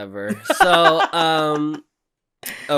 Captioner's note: laughter